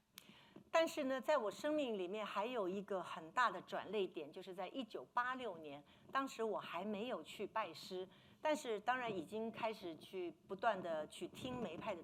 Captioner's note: speaking Mandarin